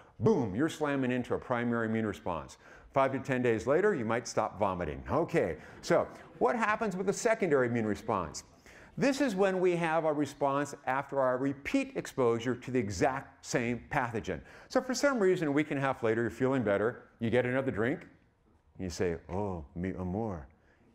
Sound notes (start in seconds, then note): 5.3 audience laughing